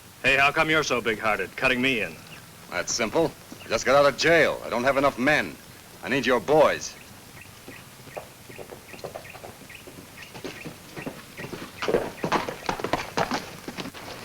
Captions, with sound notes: Hey, how come you're so bighearted, cutting me in? - It's simple. I just got out of jail. I don't have enough men, I need your boys. (bird tweets) (hooves clomp)